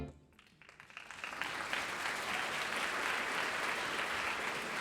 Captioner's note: audience applauding